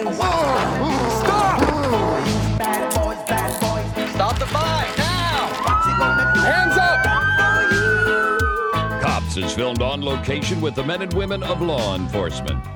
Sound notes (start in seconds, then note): 2.2 singing; 5.6 police siren; 7.4 singing